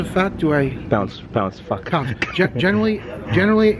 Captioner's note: laughing